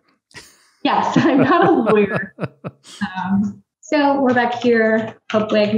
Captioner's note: chuckles; laughs